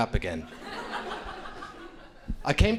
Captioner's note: crowd laughing